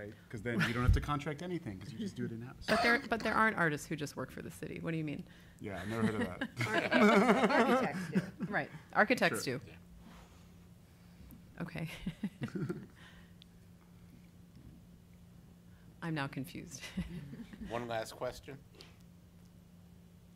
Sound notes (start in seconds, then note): 5.8 laughing